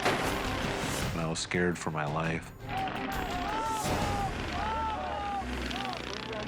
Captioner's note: mower crashing; dramatic music; yelling